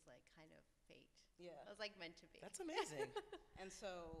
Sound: laughs

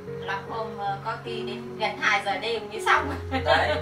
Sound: giggle

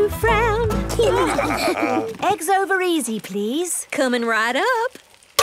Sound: laughing

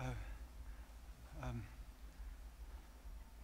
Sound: none

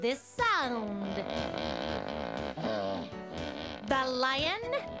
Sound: animal noise

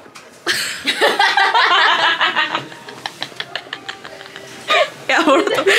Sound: laughing

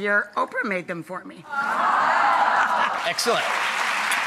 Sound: audience applauding

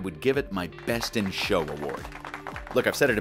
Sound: applause

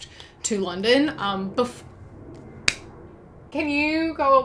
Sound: plane passes

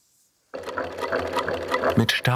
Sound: rattling of the sewing machine

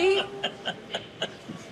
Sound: laughs

